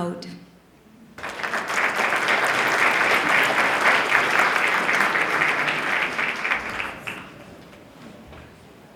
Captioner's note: applause